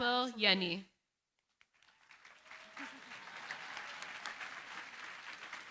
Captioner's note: applause